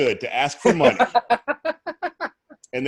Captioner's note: laughs